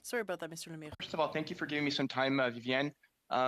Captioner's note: speaking French